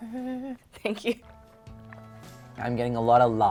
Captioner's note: gulping